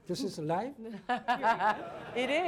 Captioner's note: laughter